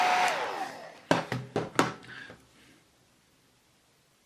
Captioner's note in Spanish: sonido del secador